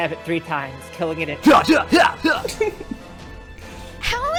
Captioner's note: making grunt noises